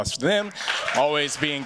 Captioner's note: cheers, applause